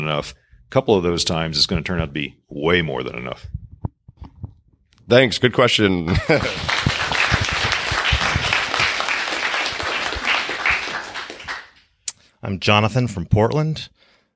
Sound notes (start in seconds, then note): 8.7 crowd applauding